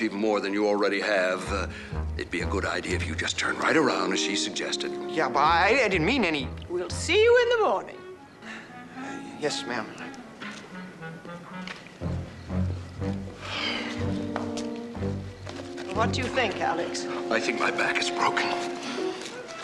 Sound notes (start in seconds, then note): 13.3 sighing